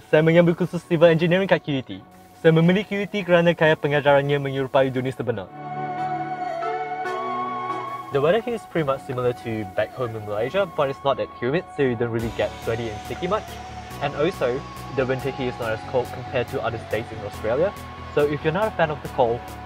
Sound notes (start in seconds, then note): 8.5 speaking in english